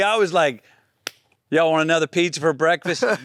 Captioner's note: hands smacking